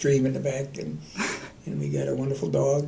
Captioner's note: laughter